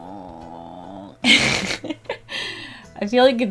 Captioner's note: laughs